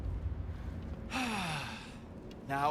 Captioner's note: sigh